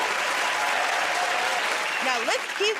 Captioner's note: cheers and applause